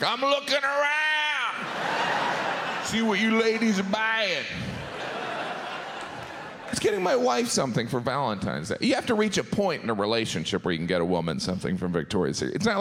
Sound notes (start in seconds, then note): 1.6 audience laughs